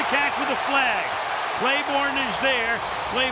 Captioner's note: cheering